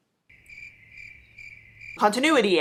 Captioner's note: crickets of brain effort